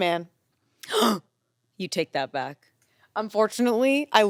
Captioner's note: gasps